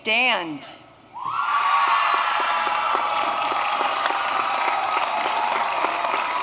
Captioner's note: applause